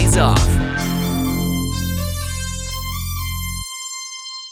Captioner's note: whistling sound